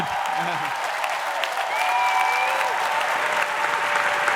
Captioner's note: audience cheering